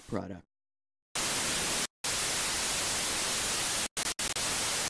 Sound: television squelching

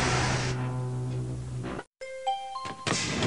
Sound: chimes

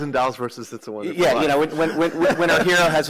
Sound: laughter

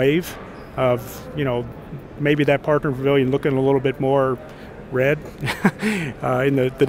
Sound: laughs

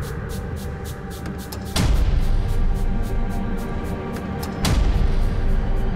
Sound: loud clock ticking

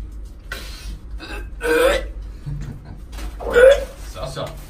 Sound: puking noises

